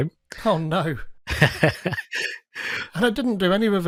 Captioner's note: laughing